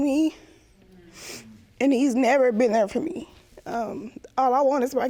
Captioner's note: in shaky voice